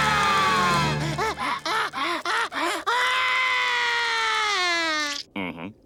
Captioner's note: crying, screaming